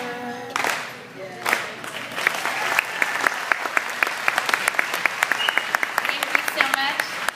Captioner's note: applause